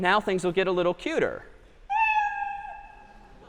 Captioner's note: meow